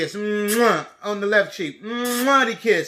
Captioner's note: kiss